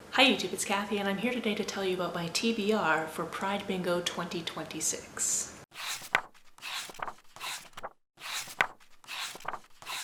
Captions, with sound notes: Hi YouTube, it's Kathy and I'm here today to tell you about my TBR for Pride Bingo 2026. [pages turning]